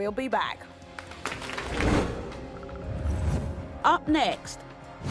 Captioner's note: crowd applauds